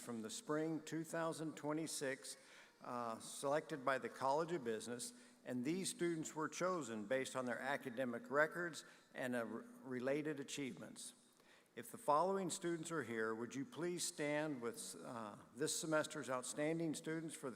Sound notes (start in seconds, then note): none